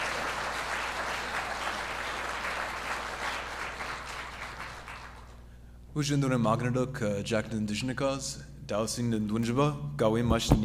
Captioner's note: applause; speaks in Ojibwe here